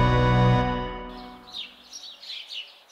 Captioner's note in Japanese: 鳥のさえずり